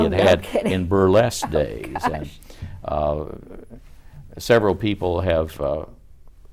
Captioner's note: laughs